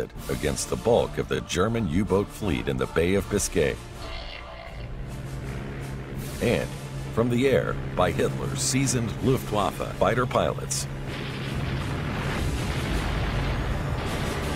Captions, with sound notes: against the bulk of the German U-boat fleet in the Bay of Biscay. [airplane engine roaring] and from the air by Hitler seasoned Luftwaffe fighter pilots. [machine gun cracking]